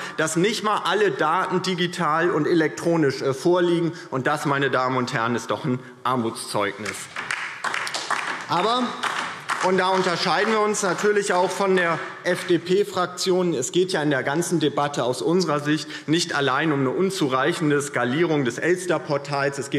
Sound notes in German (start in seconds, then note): 6.8 Beifall DIE LINKE